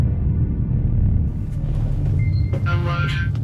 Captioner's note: walls creak; machines beeping